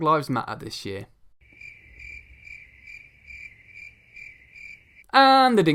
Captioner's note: crickets chirping